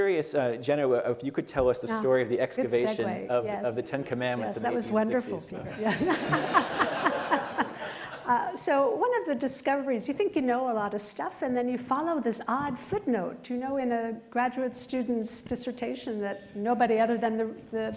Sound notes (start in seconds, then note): 5.8 laughter